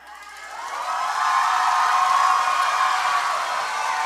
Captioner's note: cheers